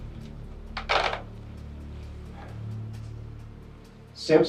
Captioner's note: phone bangs